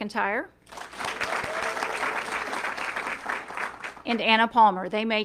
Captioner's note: audience clapping